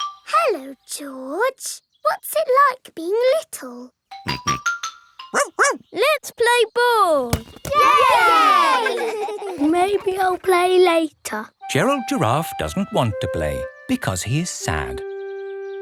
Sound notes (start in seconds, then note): 4.1 snorts; 5.3 barks; 7.7 all cheering and laughing